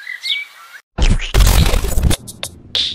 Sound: bird chirping; splat

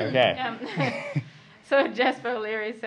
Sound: laughs

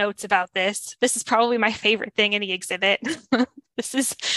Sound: laughs

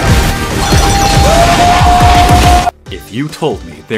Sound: Japanese comedian Hitoshi Matsumoto yelling

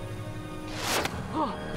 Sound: thwack

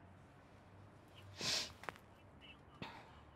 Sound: sighs

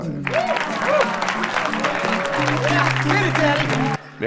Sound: audience cheer and applaud

